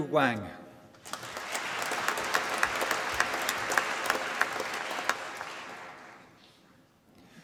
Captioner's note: applause